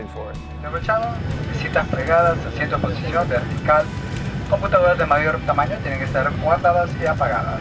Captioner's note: speaking foreign Language